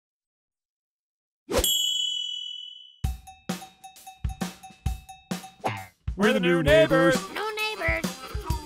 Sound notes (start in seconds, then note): 1.6 dinging; 3.0 upbeat music